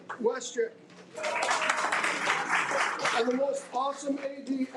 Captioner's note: audience applauding